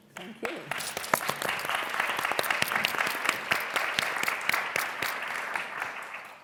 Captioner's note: applause